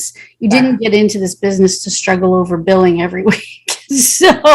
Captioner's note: chuckles